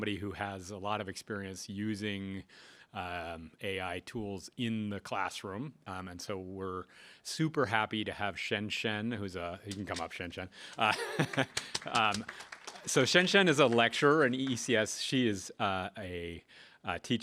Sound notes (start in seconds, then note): 10.7 applause